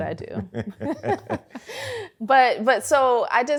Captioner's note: laughter